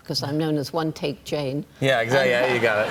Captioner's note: laughter